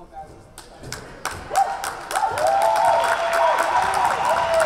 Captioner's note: crowd cheering